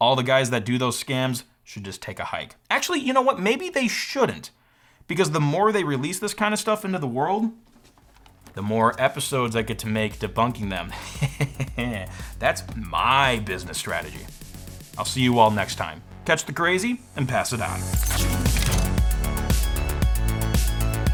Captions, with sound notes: all the guys that do those scams should just take a hike. Actually, you know what? Maybe they shouldn't, because the more they release this kind of stuff into the world, the more episodes I get to make debunking them. (laughs) That's my business strategy. I'll see you all next time, catch the crazy and pass it on. (upbeat music)